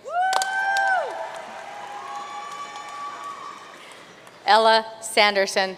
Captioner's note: audience cheering and applauding